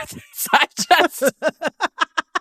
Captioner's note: laughter